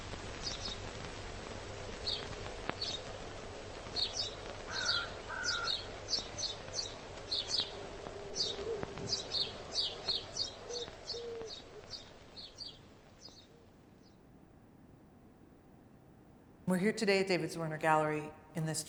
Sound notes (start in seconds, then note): 1.3 birds chirping